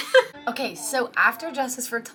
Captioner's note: laughing